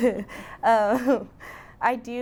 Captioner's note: chuckling